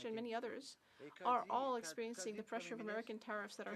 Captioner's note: speaking French